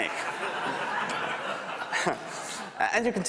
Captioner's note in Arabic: ضحك